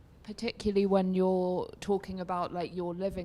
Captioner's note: voiceover